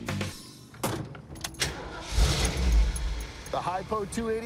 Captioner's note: car starting